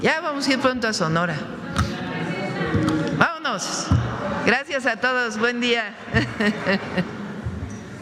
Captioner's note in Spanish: risas